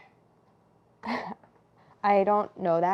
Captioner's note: laughs